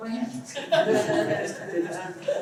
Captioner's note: laughter